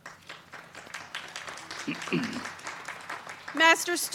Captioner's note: crowd clapping